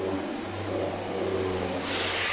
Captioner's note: hum